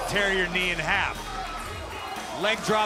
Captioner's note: crowd cheering